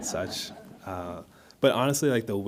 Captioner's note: audience laughs